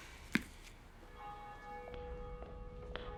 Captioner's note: church bell ringing